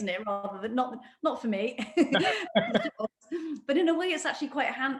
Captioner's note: laughs